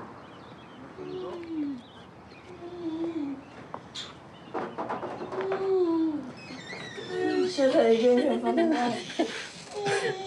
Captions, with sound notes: (KNOCKS ON DOOR) Hey. INDISTINCT CHATTER, CHUCKLING